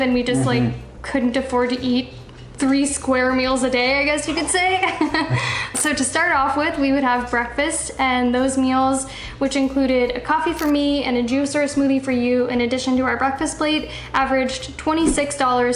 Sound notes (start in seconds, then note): 4.2 laughter